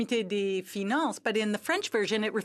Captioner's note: speaking French